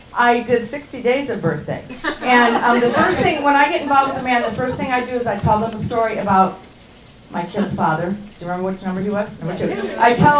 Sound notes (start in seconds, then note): 1.8 laughing